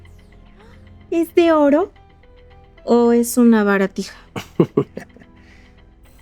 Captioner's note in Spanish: risas